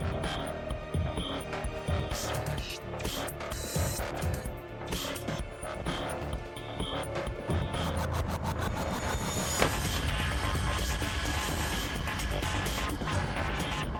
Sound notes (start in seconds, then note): 7.2 intense heavy techno music continues; 9.5 Liz thuds